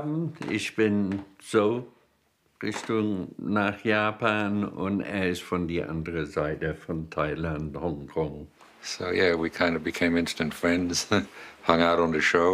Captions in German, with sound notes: Ich bin so Richtung ... nach Japan. Und er ist von der anderen Seite, von Thailand, Hongkong. (englisch:)